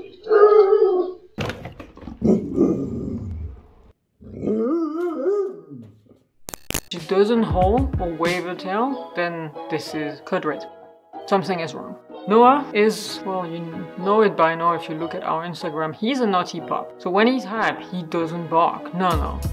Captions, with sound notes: (howling) (soft howling) (long howling) If she doesn't howl or wave her tail, then this is... CODE RED! Something is wrong! Noah is... well, you know it by now if you are looking at our Instagram. He is a naughty pup! so when he is hyped, he doesn't bark, no no,